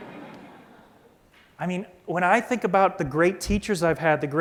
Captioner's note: laughter